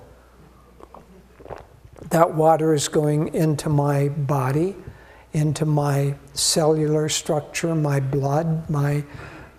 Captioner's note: swallowing Sound